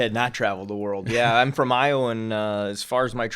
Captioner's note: chuckling